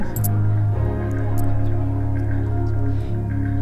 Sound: desperate counting

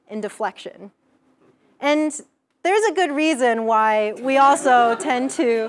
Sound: laugh

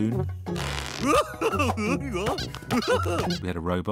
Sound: laughter

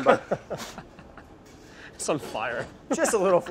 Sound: laughs

